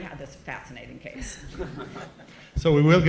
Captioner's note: chuckles